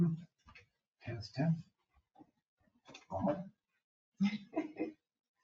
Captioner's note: people speak distantly